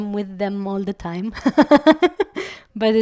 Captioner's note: laugh